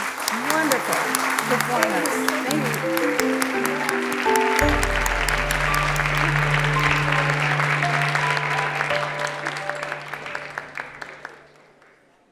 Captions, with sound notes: wonderful performance. [APPLAUSE]